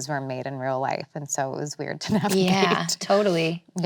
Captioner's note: laughs